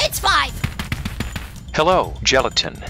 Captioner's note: running